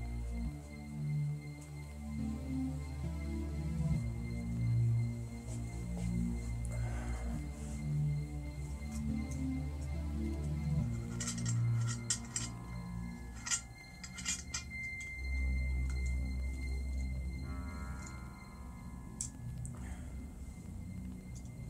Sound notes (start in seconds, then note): 0.2 tense music; 13.2 flask rattling; 16.1 tense music